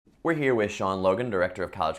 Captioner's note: voiceover